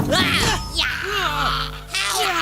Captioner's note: grunting